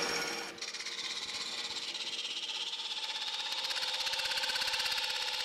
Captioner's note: machine whirring